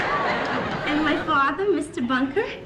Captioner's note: audience Laughing